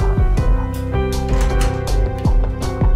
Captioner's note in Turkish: Kapı açılma sesi